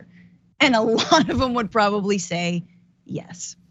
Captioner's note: laugh